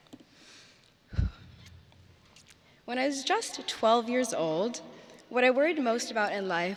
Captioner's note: sighs